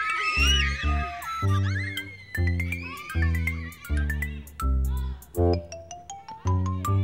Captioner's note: children screaming with glee